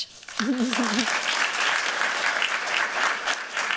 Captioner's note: applause